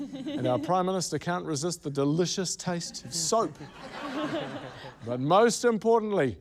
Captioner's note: laughter